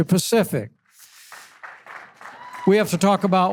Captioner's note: audience applause